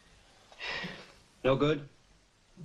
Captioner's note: Josh sighs